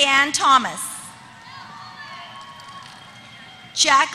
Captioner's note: applause